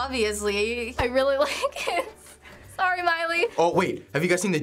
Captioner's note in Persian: خندیدن